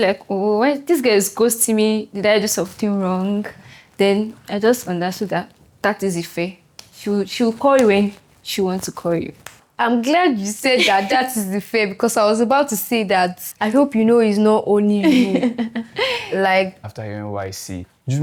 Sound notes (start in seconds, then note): 15.0 laughs